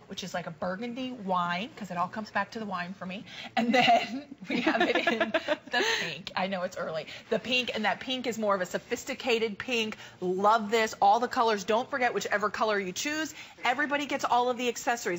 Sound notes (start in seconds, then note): 3.6 laughter